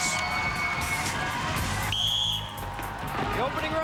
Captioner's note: whistle blows